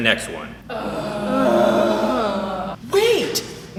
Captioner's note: all Groan